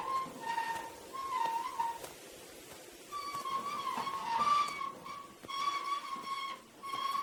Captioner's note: plants rustling continues; wheelbarrow squeaking